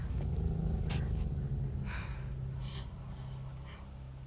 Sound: dog growls

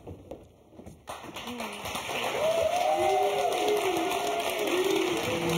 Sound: audience applauding

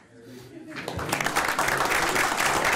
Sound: applause

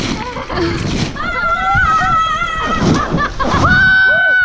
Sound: kids shouting

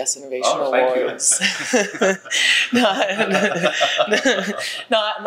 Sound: panel members laugh

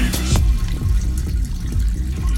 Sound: draining

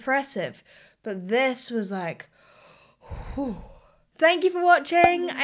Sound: exhaling

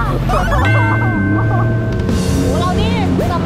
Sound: yelling; cries

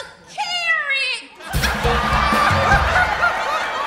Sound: audience laughing

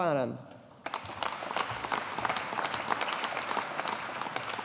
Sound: audience applauding

